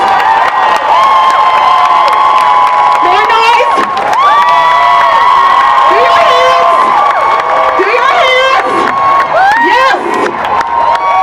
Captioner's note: cheering and applause